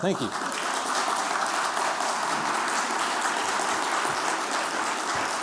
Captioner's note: applause